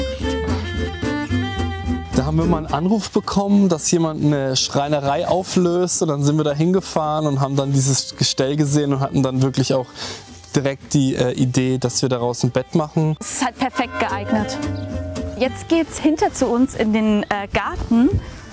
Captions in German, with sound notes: Da haben wir mal 'nen Anruf bekommen, dass jemand 'ne Schreinerei auflöst und dann sind wir da hingefahren und haben dieses Gestell gesehen und hatten dann direkt die Idee, dass wir daraus ein Bett machen. Es ist perfekt geeignet. (Glockenläuten) Jetzt geht es hinter zu uns in den Garten.